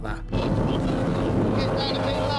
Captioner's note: engine whirring